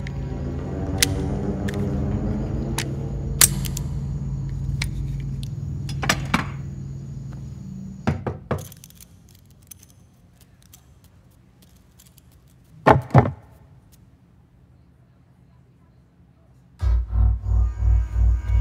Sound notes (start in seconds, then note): 3.4 empty gun clicks; 8.1 knock on door